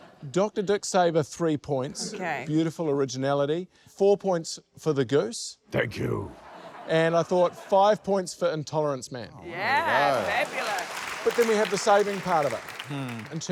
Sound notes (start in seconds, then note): 0.0 laughter; 9.8 applause